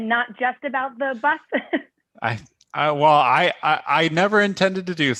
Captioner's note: laughter